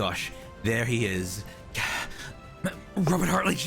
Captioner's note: stumbles on words